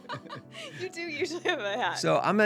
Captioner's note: laughing